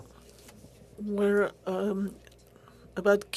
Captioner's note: speaking French